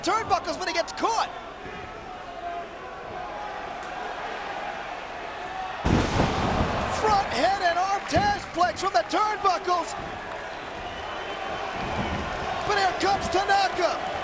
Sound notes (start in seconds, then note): 1.9 crowd chattering; 5.8 bodies slamming